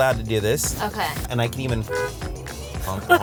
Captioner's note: honk; both laugh